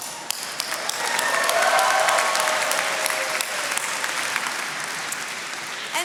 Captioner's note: attendees cheering and clapping